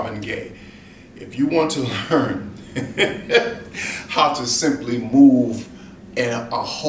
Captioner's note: laughs